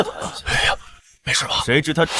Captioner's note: laughs